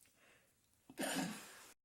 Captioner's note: sneezes